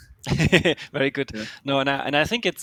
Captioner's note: laughs